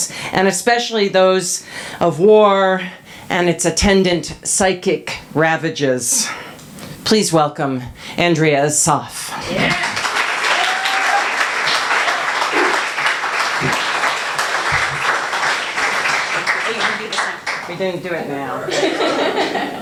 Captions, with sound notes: and especially those of war and its attendant, psychic ravages. Please welcome Andrea Assaf. [applause] We're gonna do it now. [laughter]